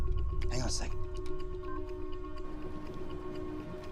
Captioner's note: beeps